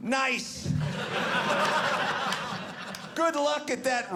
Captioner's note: audience laughing